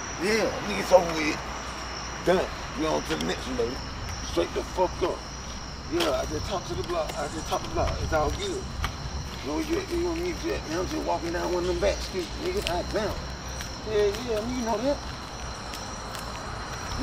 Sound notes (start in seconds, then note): 9.2 stuttering